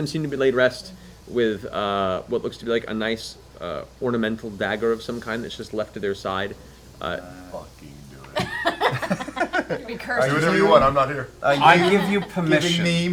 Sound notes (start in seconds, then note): 8.3 laugh